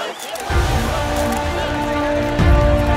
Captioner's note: Camera click